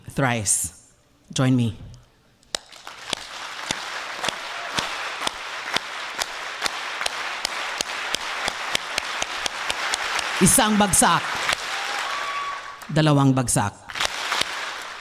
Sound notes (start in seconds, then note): 0.9 1 clap; 2.4 2 claps; 9.0 3 claps